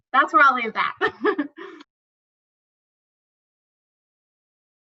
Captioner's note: chuckles